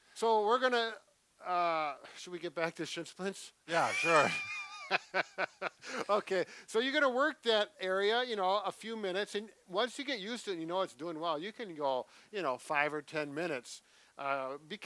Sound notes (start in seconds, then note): 3.7 both laughing